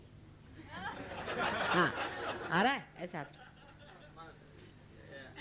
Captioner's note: laughter